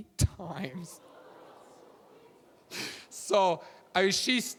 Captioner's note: audience laughing